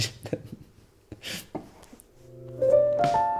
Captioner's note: laughs